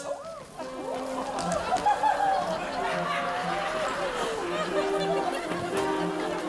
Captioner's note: people chattering